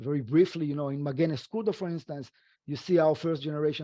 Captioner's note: speaking foreign language